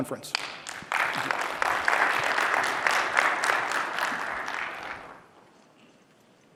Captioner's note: applause